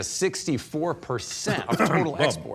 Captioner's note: clears throat loudly